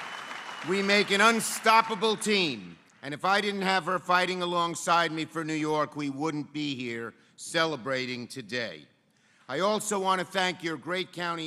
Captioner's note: applause